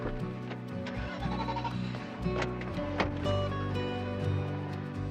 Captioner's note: engines puttering